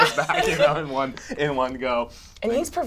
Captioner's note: laughter